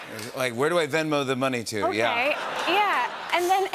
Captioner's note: laughter